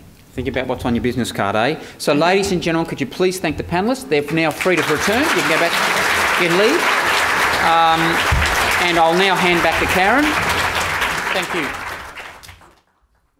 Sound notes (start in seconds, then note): 7.2 audience applause